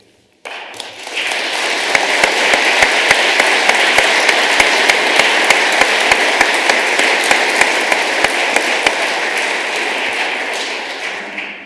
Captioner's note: applause